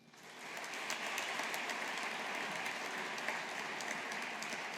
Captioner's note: audience applauding